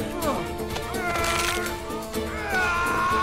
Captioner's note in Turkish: Kemik çatırtıları